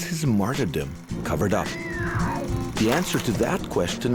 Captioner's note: screaming